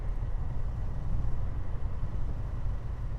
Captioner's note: one car approaching